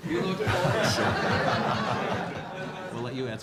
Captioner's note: laughter